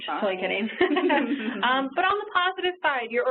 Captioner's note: laughing